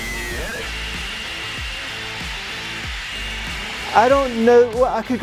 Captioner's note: white noise